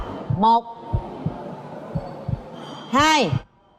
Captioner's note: heart pounding sound